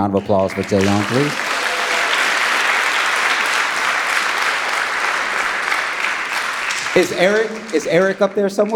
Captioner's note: audience applauding